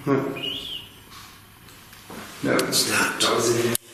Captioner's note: whistles